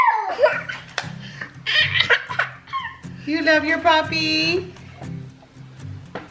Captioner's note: laughs